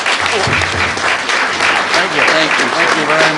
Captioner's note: applause